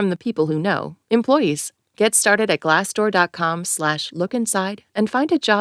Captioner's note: none